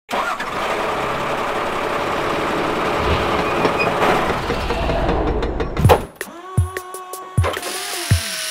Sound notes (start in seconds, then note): 0.1 truck starting; 4.0 hammering, drilling